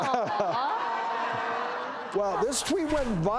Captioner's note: audience laughs